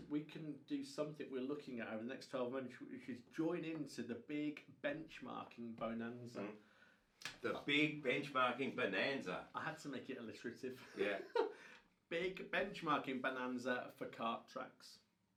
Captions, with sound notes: we can do something we are looking at over the next 12 months you should join into the big benchmarking Bonanza. - The big benchmarking Bonanza. - I had to make it illustrative (laughs). Big benchmarking Bonanza for Kart tracks.